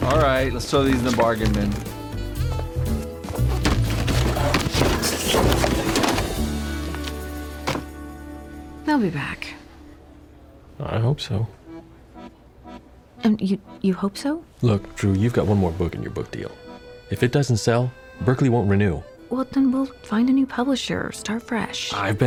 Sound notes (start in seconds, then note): 4.5 books fall; 7.4 book thuds